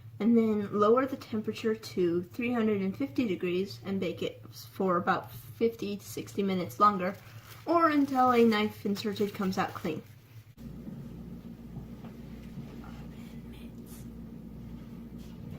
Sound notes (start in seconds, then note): 13.0 whispered